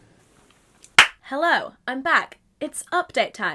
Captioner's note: claps